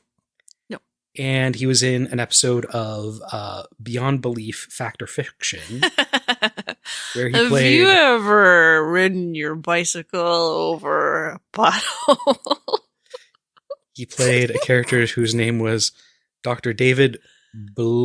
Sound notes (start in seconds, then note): 6.5 slurring